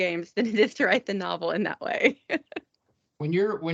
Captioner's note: laughing